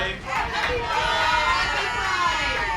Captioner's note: cheering